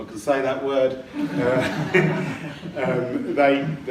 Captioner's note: laughing